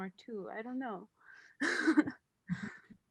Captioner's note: laughs